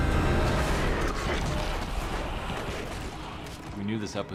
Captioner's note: snarling